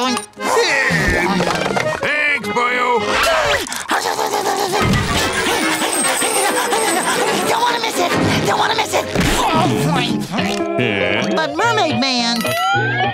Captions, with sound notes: There, thanks boyo! [gasps] [whimpering] [panting] Don't want to miss it! Don't want to miss it! Eh? But Mermaid Man!